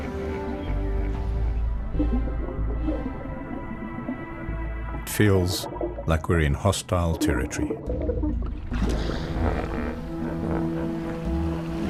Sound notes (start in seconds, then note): 9.2 animals calling; 9.2 hippo calling